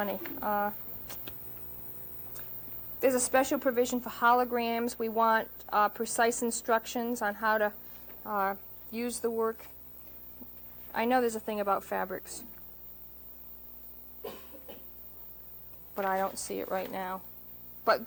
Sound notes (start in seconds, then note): 14.2 coughs